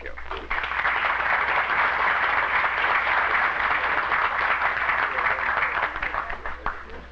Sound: applause

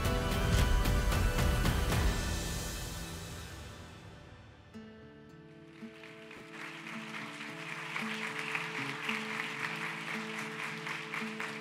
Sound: applause

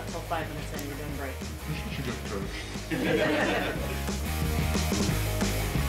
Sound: crowd laughter

